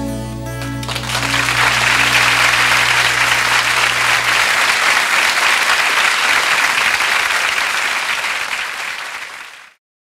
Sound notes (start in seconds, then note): 0.9 audience applauds